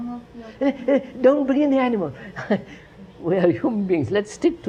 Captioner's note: laughs